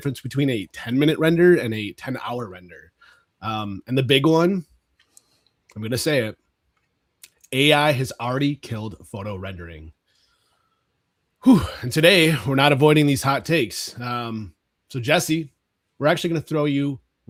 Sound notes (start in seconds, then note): 11.4 exhales